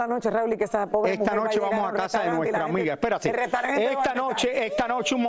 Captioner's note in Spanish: risas